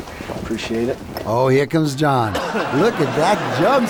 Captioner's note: laughter